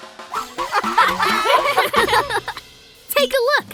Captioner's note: giggling